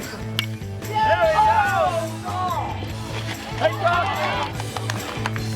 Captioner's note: people cheering and clapping